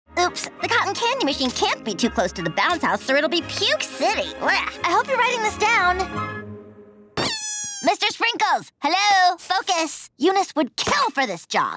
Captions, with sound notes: Oops. The cotton candy machine can't be too close to the bounce house, or it'll be puke city. I hope you're writing this down. [squeaking] Mr. Sprinkles. Hello? Focus. Eunice would kill for this job.